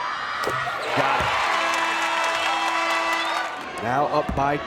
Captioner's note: horn blares